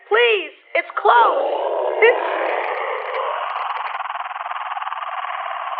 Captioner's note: creature snarling